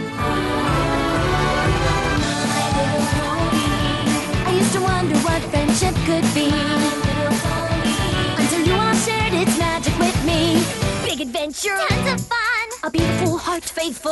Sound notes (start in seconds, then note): none